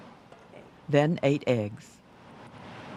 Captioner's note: voiceover